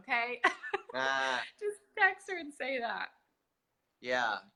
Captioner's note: laughs